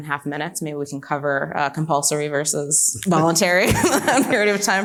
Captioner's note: laughs